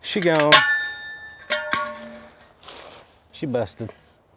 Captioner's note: pole clanging